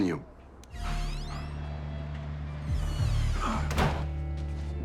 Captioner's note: door creaking